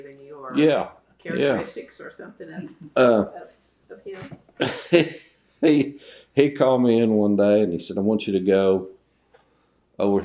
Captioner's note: laughs